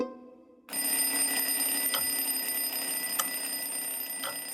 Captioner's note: alarm clock ringing